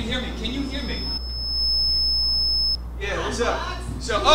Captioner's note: microphone squeals